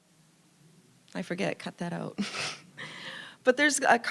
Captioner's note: chuckling